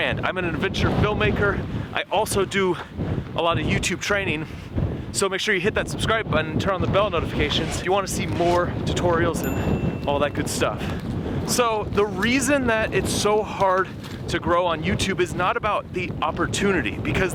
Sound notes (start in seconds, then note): 9.4 bell rings